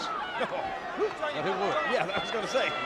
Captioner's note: laughs